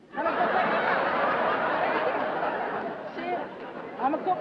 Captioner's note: laughter